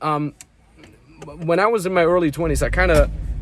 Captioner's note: button clanking